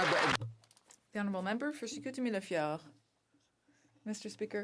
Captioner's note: some Applause